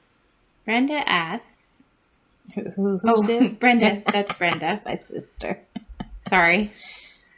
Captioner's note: laugh; laughs